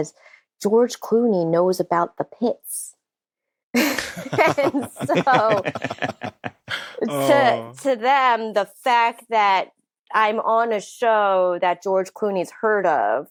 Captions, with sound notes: "George Clooney knows about The Pitts." (ALL LAUGHING) And so, to them, the fact that I'm on a show that George Clooney's heard of